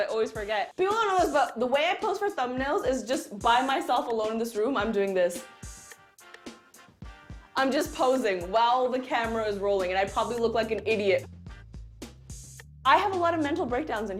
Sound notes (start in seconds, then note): none